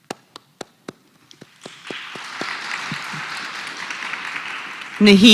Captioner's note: applause